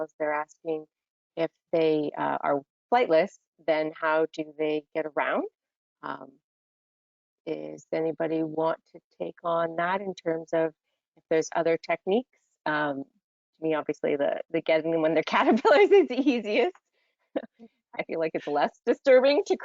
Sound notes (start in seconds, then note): 17.3 laughs